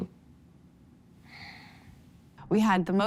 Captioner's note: sighs